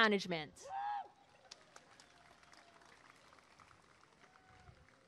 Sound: applause and cheering

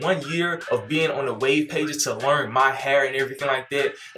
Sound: in high voice

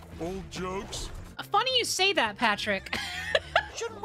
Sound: laughter

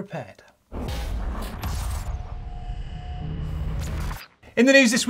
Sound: metal clashing and sparking

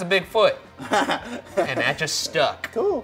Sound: laughing

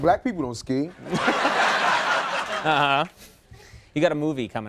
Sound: audience laughing

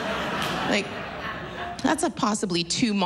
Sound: laughter

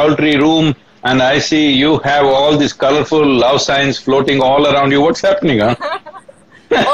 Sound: both laugh

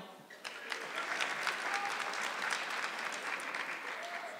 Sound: audience clapping

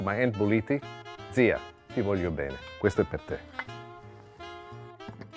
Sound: speaking Italian

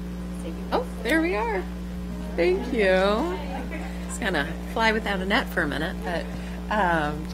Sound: laughter

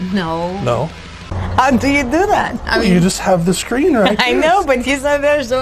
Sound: laughs

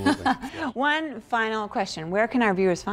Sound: laughter

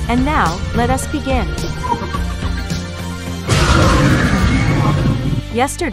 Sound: demogorgon cheers

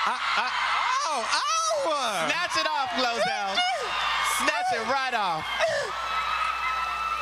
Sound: applause

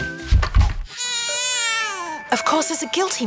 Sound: baby crying

